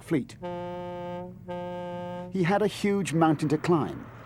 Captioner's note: ship horn blares